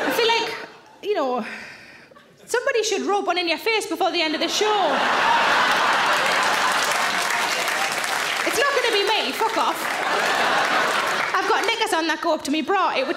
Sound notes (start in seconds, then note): 5.6 audience laughs and claps; 10.3 audience laughs